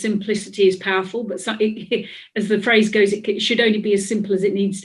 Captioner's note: laughs